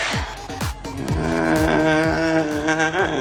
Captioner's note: humming